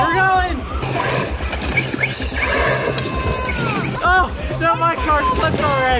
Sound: engines start humming

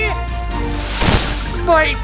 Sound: sonic whirring

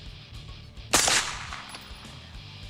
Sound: fires

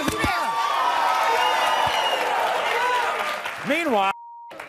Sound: audience cheers

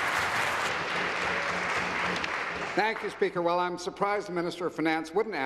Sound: applause

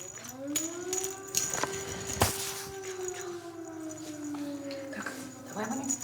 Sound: air raid alert

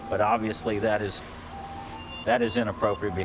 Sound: beeping

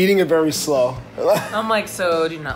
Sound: laughs

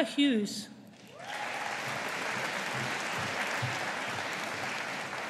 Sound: audience applauding

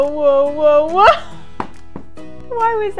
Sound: laughs

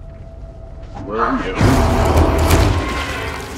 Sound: monster roar; intense music

